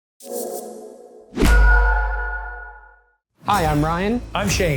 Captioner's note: logo whooshing and pinging